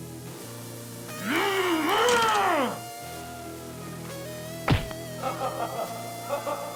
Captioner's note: monster yells; spine snaps; laughs maniacally